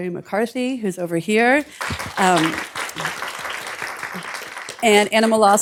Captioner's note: applause